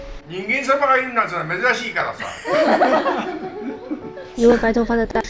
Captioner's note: door Open